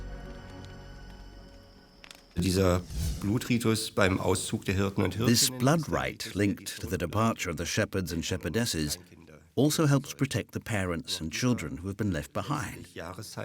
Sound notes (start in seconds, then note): 2.3 speaking German